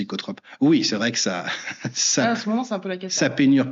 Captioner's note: laughs